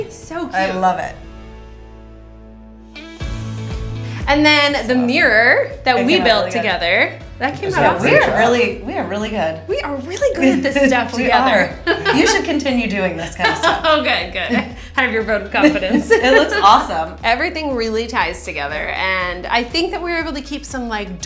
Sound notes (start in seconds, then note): 3.2 upbeat music; 14.0 laughs